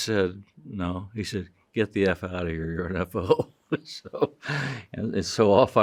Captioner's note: chuckles